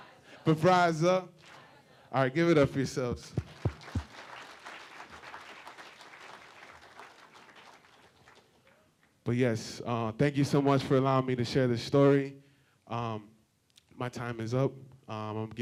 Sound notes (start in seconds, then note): 3.1 applause